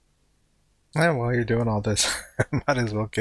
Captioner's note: chuckling